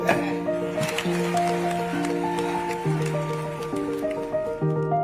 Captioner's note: audience clapping